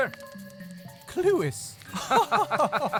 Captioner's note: laughs